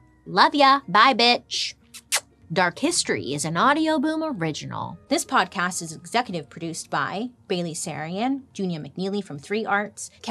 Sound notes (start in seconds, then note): 1.9 smooches